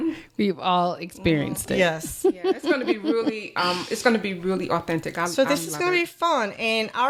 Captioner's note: laughter